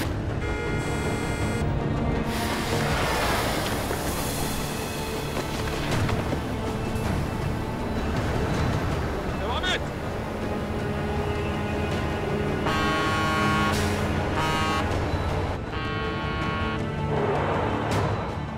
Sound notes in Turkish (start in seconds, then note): 0.1 Korna Çalıyor; 12.1 Korna Çalıyor